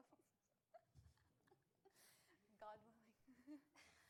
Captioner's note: laughs